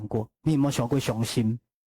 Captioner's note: Taiwanese